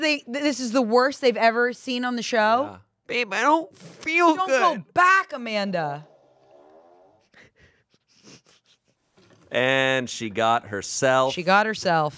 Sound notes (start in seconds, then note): 6.3 fart machine farts; 8.4 laughs